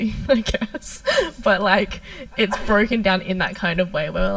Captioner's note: laughs